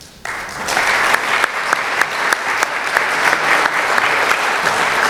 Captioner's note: applause